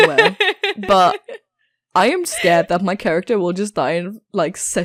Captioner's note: laughs